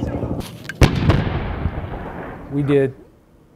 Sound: bomb exploding

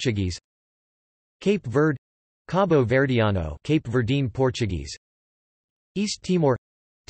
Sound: cape Verdean Portuguese

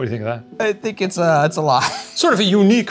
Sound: chuckles

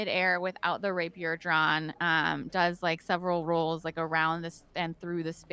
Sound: none

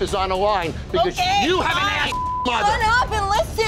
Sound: beeping

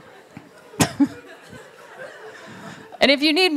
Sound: laughter

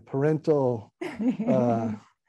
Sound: laughing

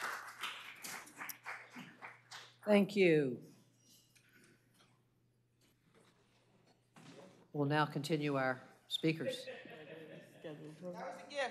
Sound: cheers and applause

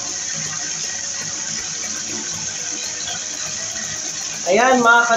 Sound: water splashing

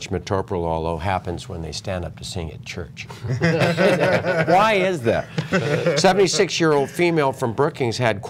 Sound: laughter

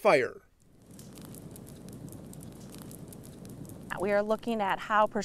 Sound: fire crackling

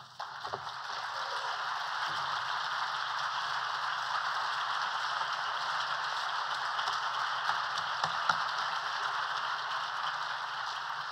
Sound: applause

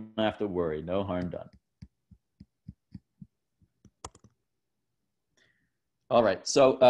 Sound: thumping

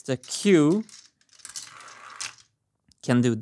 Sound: marble rolling

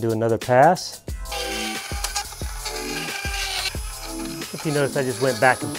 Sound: drilling sound

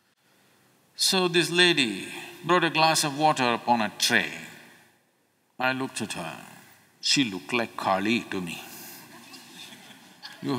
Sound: few Laugh

